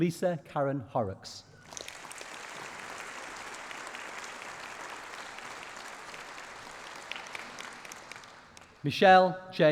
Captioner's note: applause